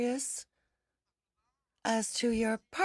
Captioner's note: speaking in french